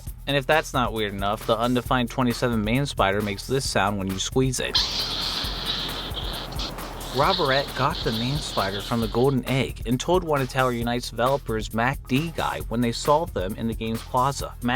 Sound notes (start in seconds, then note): 4.7 squeaking sound